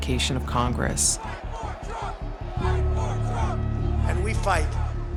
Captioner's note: chanting